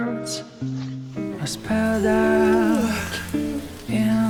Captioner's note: yawn